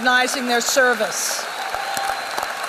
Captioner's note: applause